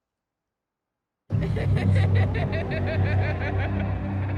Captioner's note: hallucinatory laughter